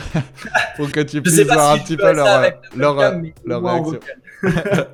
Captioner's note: laughs